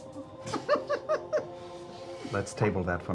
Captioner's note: giggles